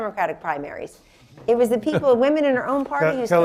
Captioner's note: laughter